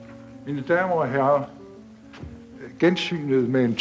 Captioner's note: speaks danish